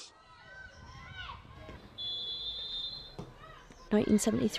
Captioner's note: shouts & calls from a football crowd & a referee's whistle